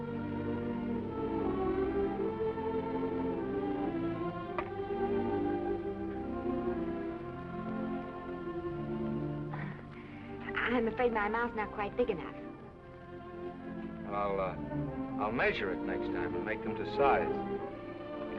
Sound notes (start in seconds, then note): 0.1 gentle music; 9.6 Esther chuckles